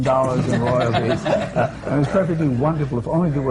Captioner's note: laughter